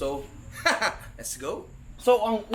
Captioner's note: laughs